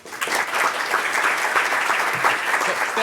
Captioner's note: applause